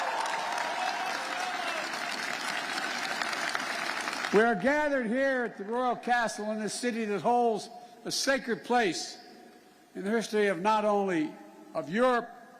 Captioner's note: cheers and applause